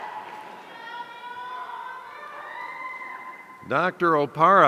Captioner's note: audience member shouting